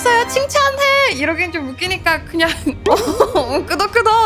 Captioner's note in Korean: 웃음